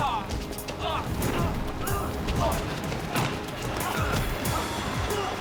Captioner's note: flames crackle